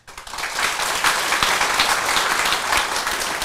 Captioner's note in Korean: 청중박수